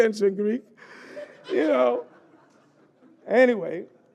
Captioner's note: laughter